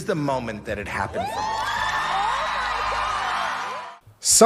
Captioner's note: applause